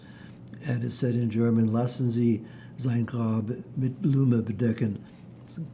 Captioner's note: german